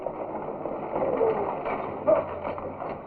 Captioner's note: stagecoach rattling; chattering